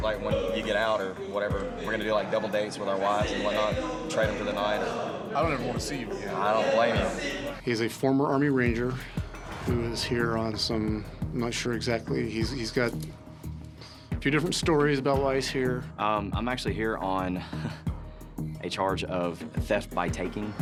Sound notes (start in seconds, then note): 13.8 sighs; 17.4 chuckles